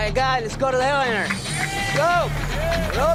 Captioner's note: clapping and cheering